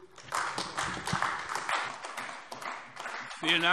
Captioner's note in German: Beifall AfD